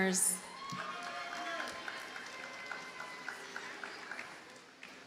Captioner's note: audience cheers and applauds